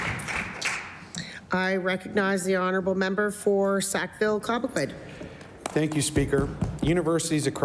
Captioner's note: applause